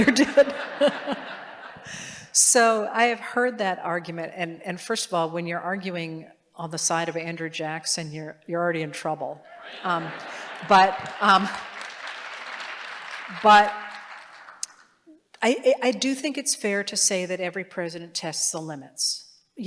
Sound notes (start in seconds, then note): 0.0 laughter; 10.2 applause